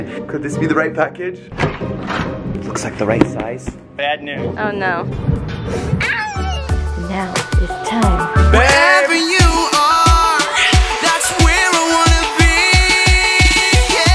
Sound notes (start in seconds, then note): 6.0 cat meowing